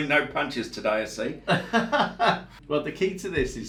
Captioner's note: laughs